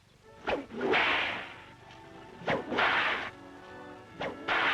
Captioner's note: cracking whip